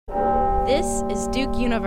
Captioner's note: clock chiming